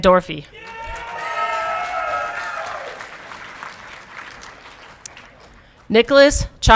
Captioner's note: audience clapping and cheering